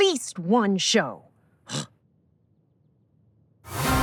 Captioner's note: Scout scoffs